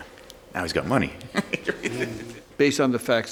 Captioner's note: attorney laughs